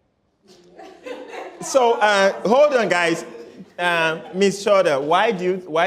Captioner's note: laughter